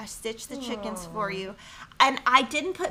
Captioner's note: awws